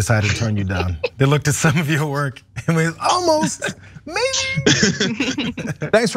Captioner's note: laugh